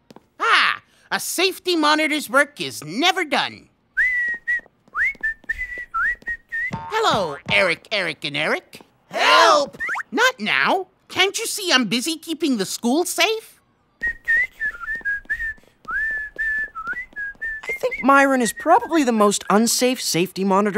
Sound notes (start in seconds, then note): 3.9 whistling; 14.0 whistling